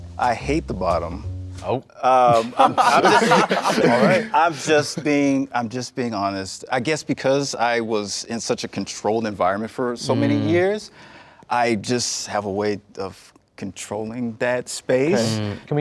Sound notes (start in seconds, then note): 2.2 group laughs